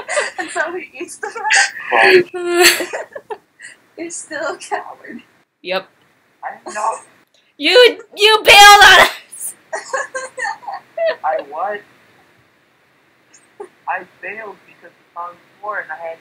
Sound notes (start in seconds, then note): 1.1 laughs